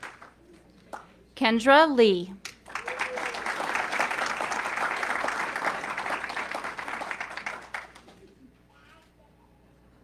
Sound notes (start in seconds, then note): 2.4 audience clapping